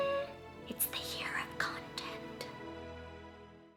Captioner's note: intense whispering